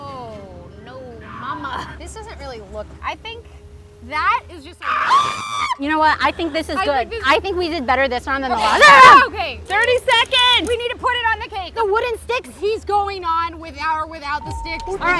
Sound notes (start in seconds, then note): 4.8 screams